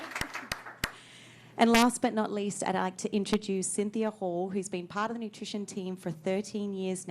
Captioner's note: applause